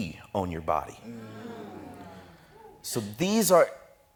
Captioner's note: audience exclaims